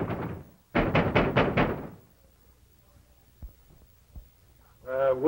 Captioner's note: knocking